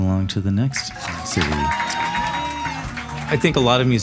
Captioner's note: audience applauding and cheering